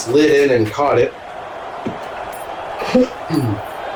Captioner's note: crowd Noises